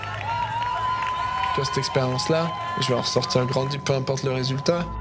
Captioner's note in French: acclamation